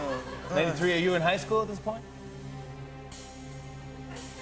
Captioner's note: laughter